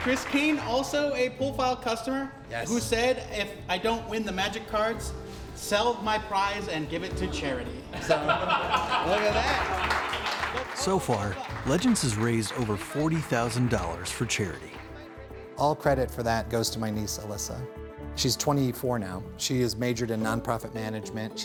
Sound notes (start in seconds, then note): 7.9 laughter